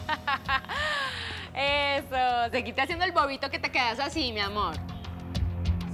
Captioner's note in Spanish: Risas